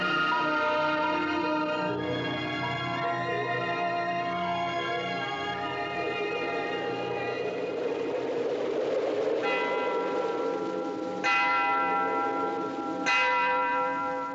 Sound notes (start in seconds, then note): 9.4 bell Tolling